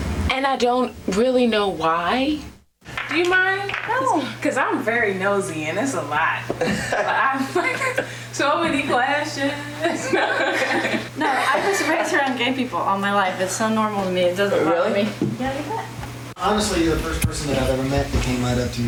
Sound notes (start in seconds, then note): 9.4 laughs